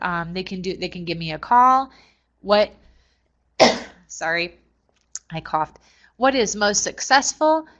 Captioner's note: cough